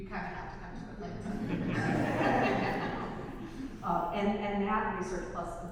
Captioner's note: audience laughs